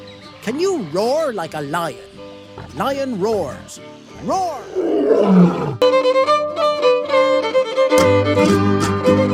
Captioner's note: lion roars: "ROARRR!"